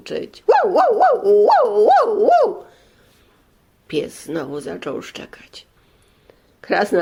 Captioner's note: dog barks